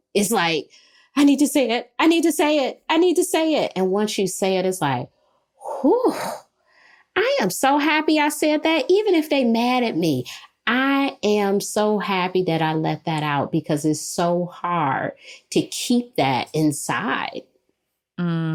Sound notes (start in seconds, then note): 5.6 sighs